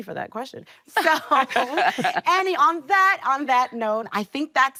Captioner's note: laughing